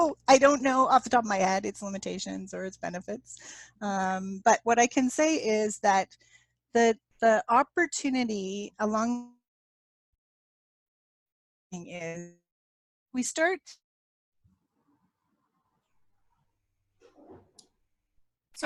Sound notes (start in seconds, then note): 12.6 audio lost